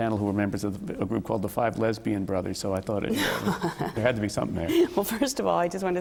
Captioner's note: laughter